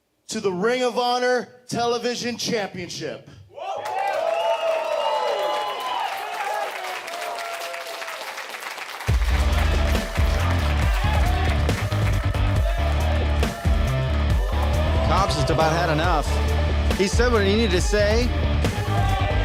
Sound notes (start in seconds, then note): 3.9 audience cheers; 9.4 driving rock music